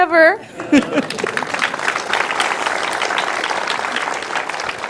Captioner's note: audience applauds